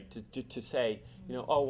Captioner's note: none